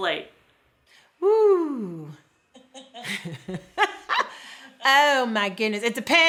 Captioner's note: laughs